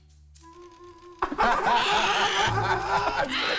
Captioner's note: mascots laughing; bird squawking